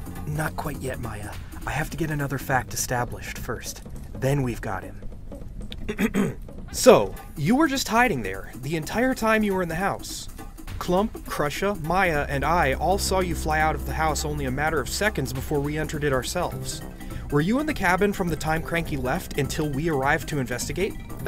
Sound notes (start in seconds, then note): 0.6 whispering; 5.8 clearing throat to speak up